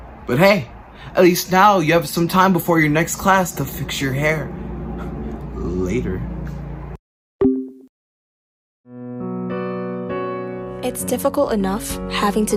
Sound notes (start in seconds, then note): 7.4 soft tone; 8.9 slow piano music